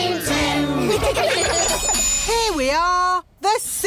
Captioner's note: laughter